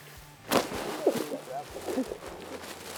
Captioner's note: laughing